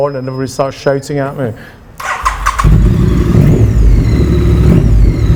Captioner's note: engine revving